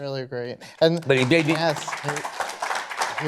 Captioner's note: applause